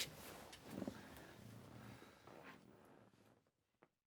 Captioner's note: chair creaks